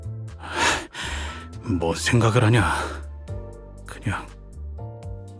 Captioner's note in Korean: 헉 소리